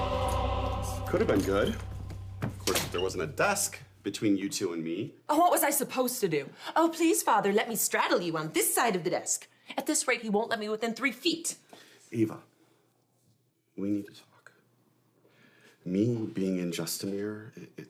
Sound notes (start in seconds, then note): 0.1 door slams